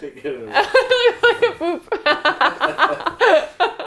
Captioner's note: laughs